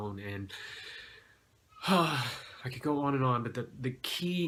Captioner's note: sigh